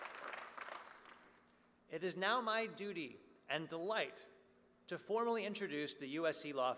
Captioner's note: applause